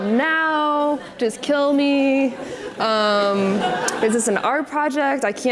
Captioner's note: audience laughs